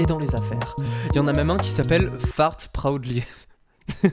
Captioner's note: chuckle